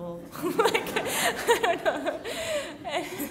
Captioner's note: laughing